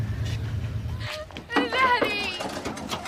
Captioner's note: Sara Jean crying